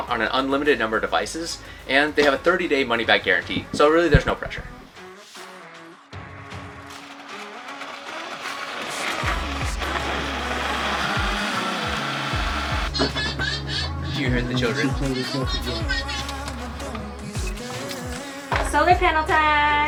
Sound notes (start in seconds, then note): 6.4 bright music; 9.4 blender whirring